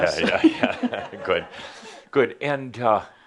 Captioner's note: some chuckles